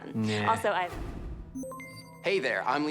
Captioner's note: system beeps